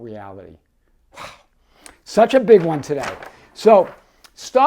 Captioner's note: pages fluttering